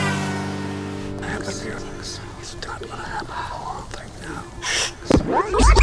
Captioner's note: People whispering